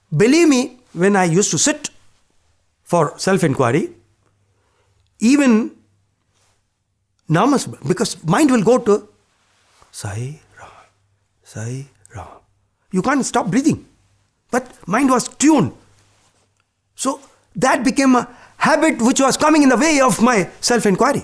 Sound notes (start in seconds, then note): 10.5 breathes